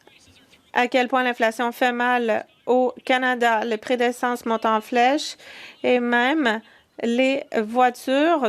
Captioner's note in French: voix de l'interprète